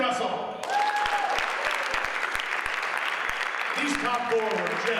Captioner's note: audience applauds